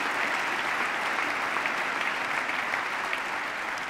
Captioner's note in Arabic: تصفيق